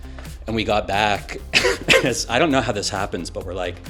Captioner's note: chuckling